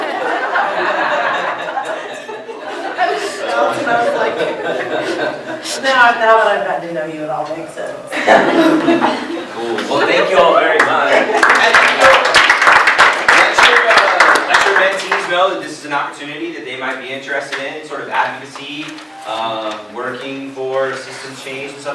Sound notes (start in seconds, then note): 0.0 laughter; 8.1 laughter; 11.2 applause